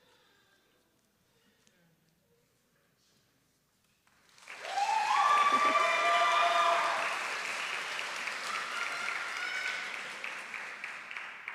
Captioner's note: applause